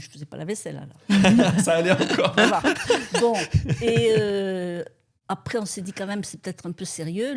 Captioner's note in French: rires